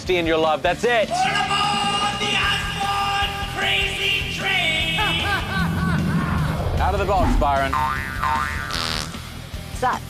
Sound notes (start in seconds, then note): 5.0 all laughing; 7.8 farts